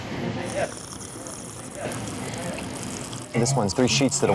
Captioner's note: drink slurps